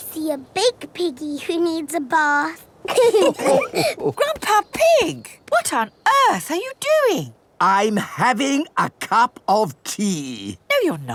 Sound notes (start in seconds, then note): 2.8 all laughing